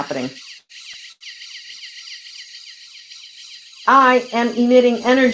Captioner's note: machine whirring